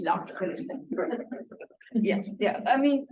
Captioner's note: laughter